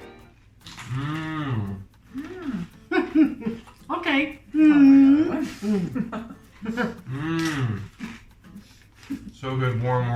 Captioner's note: eating noises "yummm"